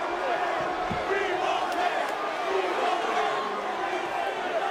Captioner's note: spectators chanting